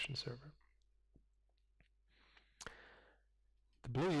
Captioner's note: pause